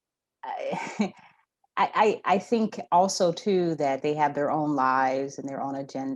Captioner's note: laughs